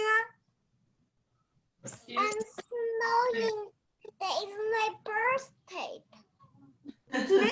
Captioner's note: child in the background